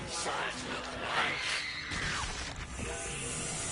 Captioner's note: Arya screaming then flesh tearing